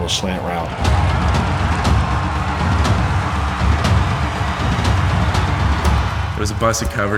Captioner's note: crowd cheering